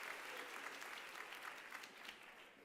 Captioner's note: applause